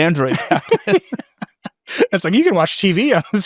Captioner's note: laughing